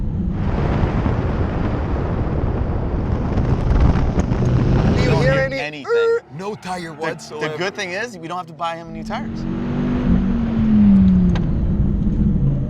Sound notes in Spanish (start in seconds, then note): 5.5 hace un sonido chirriante